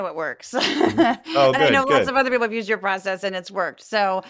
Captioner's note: laugh